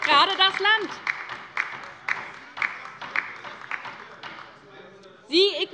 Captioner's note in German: Beifall bei der LINKEN